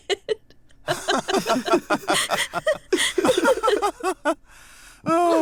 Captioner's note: laughing